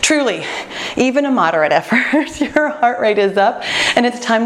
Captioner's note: laughs